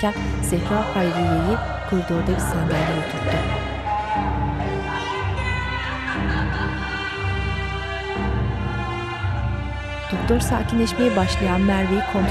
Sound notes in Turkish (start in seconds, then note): 2.8 Boğuk bağırma sesleri; 6.4 Ağlama sesi